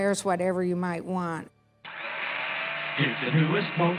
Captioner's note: blender whirring